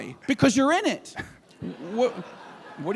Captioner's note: laughter